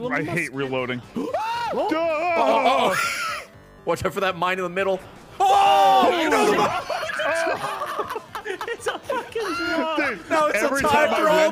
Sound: everyone screaming

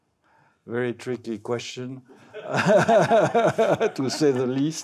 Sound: laughs

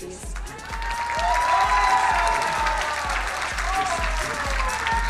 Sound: crowd cheering and applauding

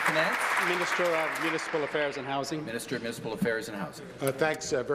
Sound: applause

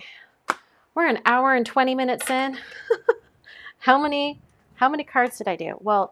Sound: laughs

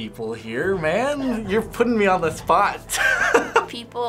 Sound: snickers

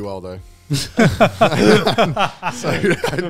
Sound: all laughing

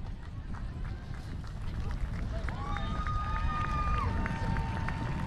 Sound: audience applauds

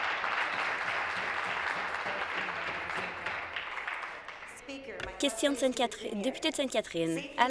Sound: some Applause

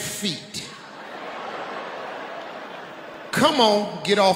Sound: audience laughing

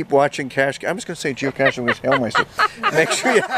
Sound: laughing

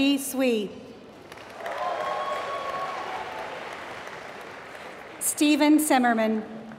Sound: applause

